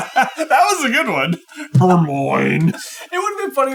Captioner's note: laughing